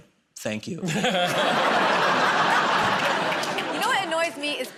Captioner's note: laughter